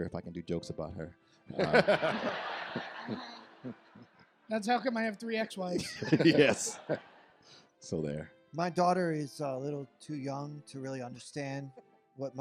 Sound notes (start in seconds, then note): 1.5 audience laughs; 5.8 audience laughs